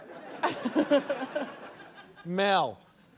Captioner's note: chuckles